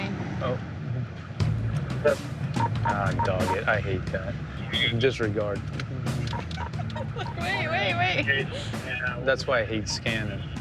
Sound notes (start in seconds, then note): 2.6 radio beeps; 6.0 laughs